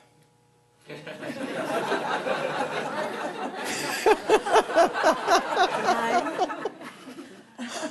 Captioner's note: everyone laughs